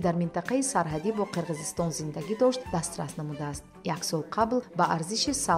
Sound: journalist narrating in tajik

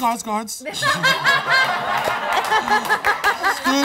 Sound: laughs

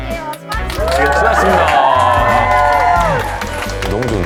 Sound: whoo!!!!!

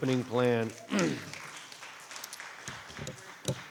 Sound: clapping

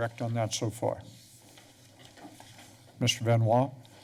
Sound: pause

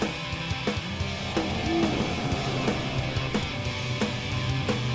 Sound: zombie growling

